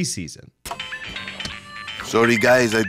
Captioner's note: phone ringing